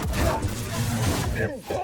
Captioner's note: gunshots